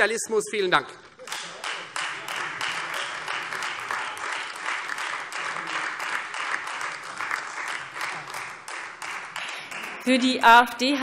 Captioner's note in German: Beifall Freie Demokraten und AfD